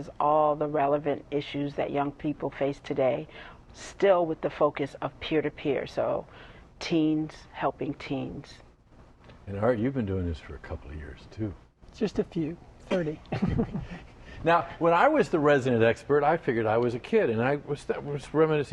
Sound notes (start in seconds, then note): 13.3 laughter